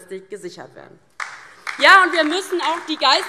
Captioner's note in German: Beifall DIE LINKE